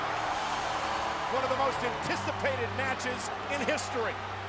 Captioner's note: applause